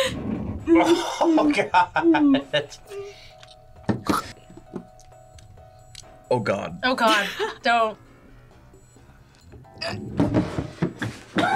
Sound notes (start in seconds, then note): 0.7 laughs; 4.1 gags; 9.8 gags